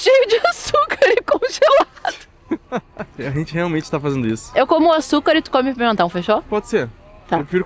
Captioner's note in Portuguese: risadas